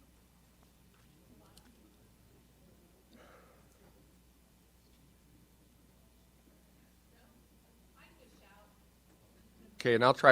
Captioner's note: silence